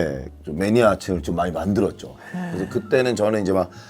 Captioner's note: haha